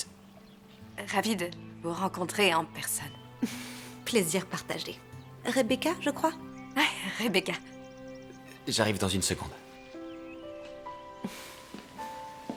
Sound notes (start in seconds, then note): 3.4 chuckles